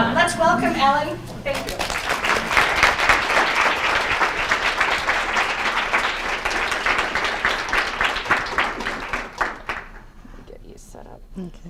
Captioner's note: applause